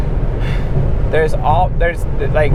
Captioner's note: sighs